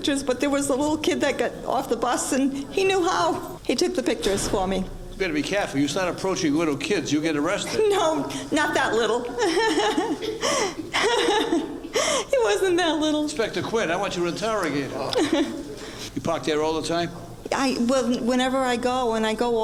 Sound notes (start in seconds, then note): 8.9 laughing